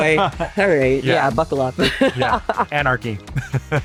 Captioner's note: laughs